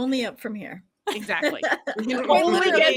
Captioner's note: laughing